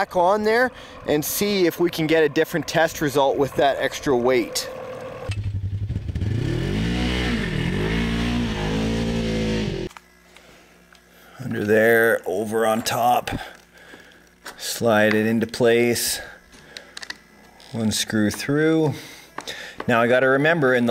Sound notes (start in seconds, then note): 4.4 engine revs